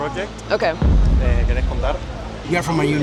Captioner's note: boom